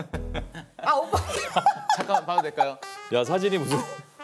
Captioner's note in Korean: 빵 터짐